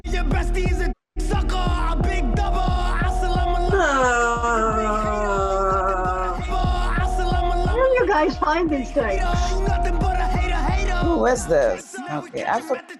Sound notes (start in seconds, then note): 3.6 groans